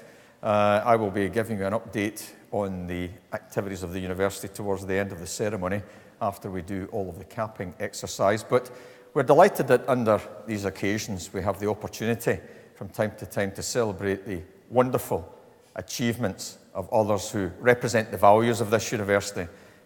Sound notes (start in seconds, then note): none